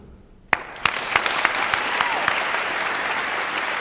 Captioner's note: room applauds